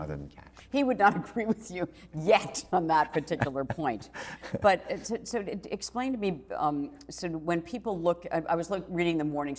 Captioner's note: laughs